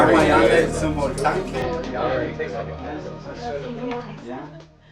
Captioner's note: non-english speech